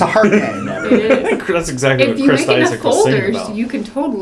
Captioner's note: laugh